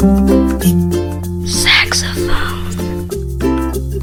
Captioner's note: whispers